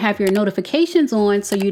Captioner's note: button clicking